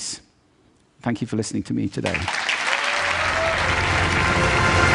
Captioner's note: applause